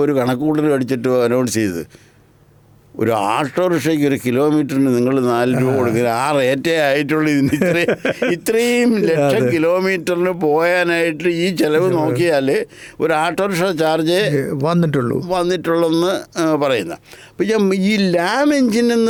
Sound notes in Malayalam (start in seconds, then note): 7.4 പൊട്ടിച്ചിരി